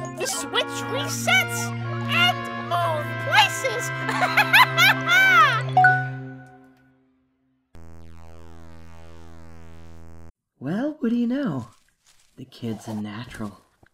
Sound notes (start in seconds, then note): 4.0 maniacal laughter; 5.8 ding! - correct noise